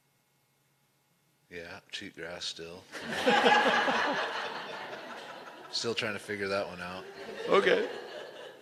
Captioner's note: laughter